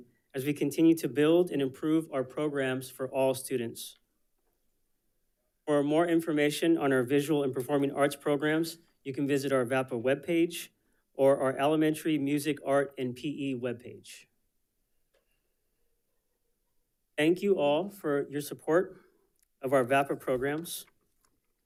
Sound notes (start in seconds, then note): none